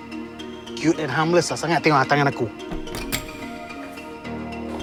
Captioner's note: speaking in foreign language; slow electronic music